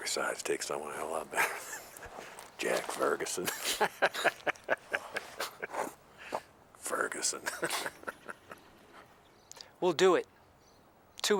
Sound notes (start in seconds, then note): 1.0 laughs; 3.4 both laughing